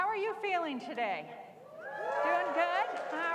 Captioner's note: cheering